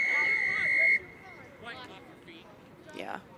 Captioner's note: whistle blows